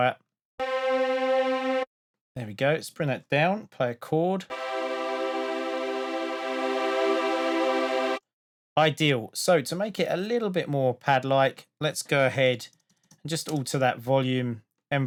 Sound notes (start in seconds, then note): 0.2 spacey sound; 4.5 spacey sound